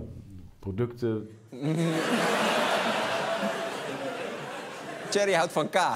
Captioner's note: laughter